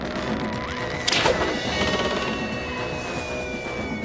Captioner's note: mysterious music; catapult whooshing; all whistling through air